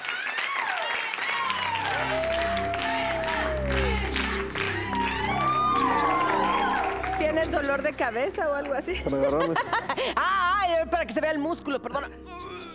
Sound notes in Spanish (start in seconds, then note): 7.2 Exclamaciones